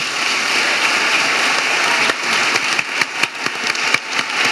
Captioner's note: audience applauding